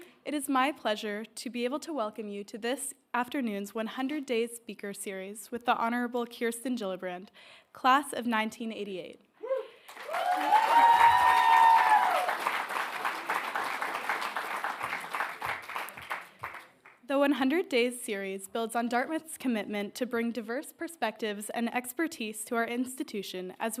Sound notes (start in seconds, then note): 9.8 audience cheering and applauding